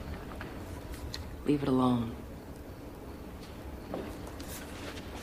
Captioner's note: none